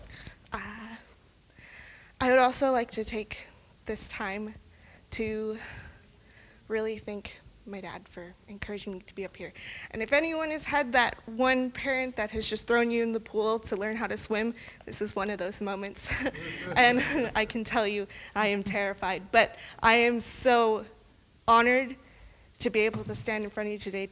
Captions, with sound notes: I would also like to take this time to really thank my dad for encouraging me to be up here. And if anyone has had that one parent who has just thrown you in the pool to learn how to swim, this is one of those moments. [laughing] I can tell you. I am terrified, but I am so honored to be able to stand in front of you today,